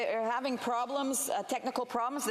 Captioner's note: speaking FRENCH